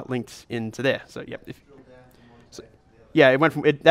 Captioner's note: voiceover